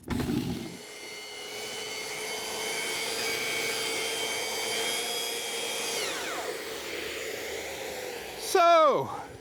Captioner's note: sander whirs